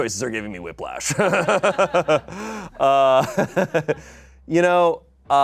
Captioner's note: audience laughing